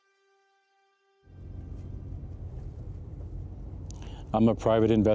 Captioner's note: car engine roaring